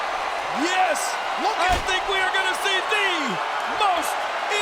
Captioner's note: applause